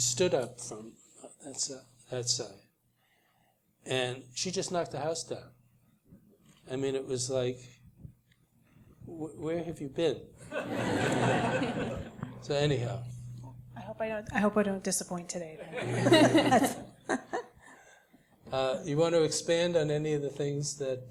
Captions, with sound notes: and she stood up from that side and she just knocked the house down. I mean it was like where have you been? [LAUGH] So, anyhow >> I hope I don't disappoint today. >> [LAUGH] >> You want to expand on any of the things that we discussed here?